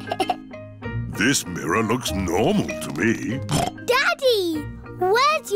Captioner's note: giggles; snorts